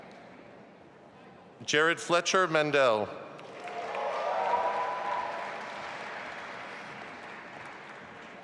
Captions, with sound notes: Jared Fletcher Mandel. (audience applauding)